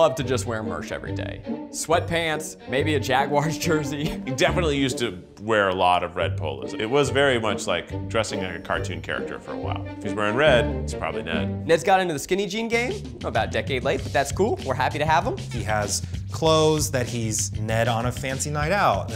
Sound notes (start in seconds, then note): 3.8 giggles